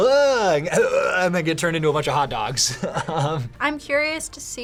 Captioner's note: laughs